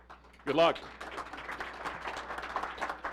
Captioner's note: applause